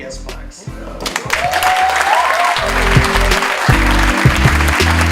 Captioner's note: audience cheers